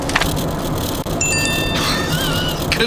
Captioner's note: text message noise